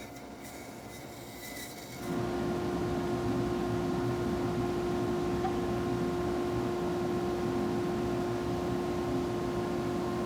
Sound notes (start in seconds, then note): 0.2 band-saw quietly whining; 2.6 machine in background whirring